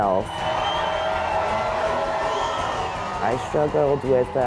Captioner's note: fans Cheering